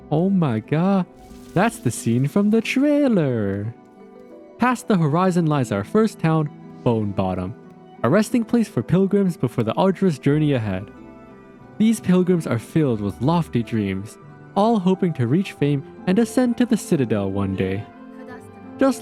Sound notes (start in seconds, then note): none